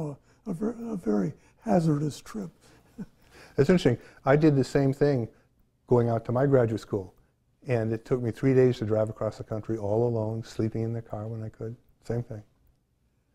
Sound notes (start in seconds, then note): 2.7 chuckles